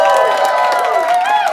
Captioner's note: cheers